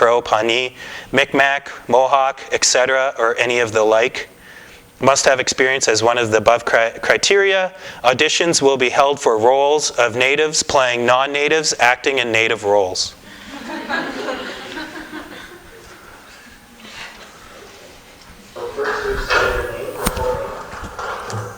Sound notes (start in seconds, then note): 15.8 laughter